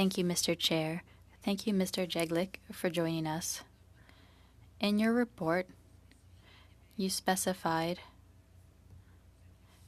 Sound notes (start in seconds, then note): 6.7 speaking French